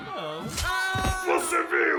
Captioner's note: slash sound